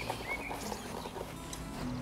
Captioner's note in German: Vogelzwitschern